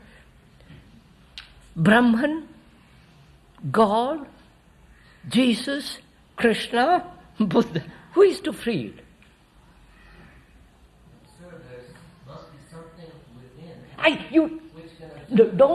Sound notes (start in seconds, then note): 7.4 laughs